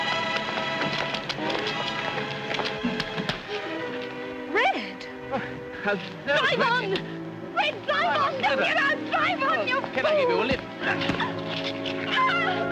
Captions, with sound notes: [dramatic music] Red. -Oh, how-- -Drive on! Red, drive on! Don't get out. -Drive on, you fool! -Can I give you a lift? [fists thudding]